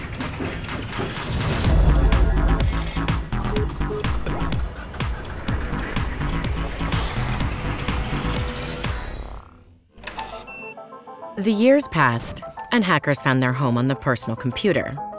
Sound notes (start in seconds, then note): 0.2 upbeat music; 3.8 buttons beeping; 5.6 whooshing sound